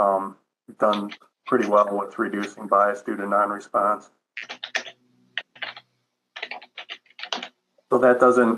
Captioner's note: typing